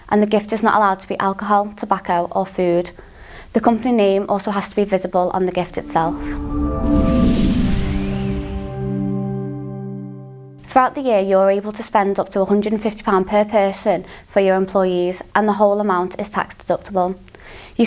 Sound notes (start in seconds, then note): 5.5 melodic sting; 6.4 bell dinging